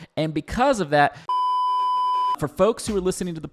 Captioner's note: beep